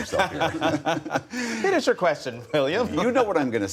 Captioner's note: laughter